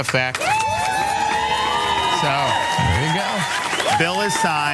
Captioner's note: applause